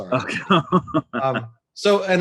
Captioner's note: laughs